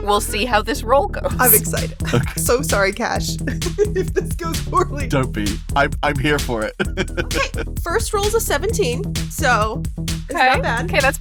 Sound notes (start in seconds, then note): 3.4 chuckles